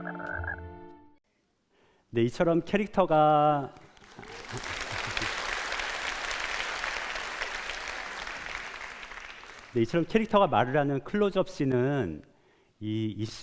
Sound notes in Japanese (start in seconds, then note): 3.7 拍手